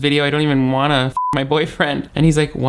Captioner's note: beep